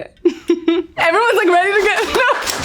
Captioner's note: giggles; crew clapping; laughs